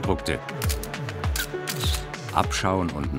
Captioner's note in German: Fotoklicken